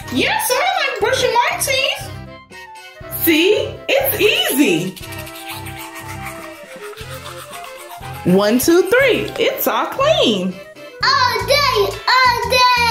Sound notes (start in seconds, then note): 4.0 tooth brush scrubbing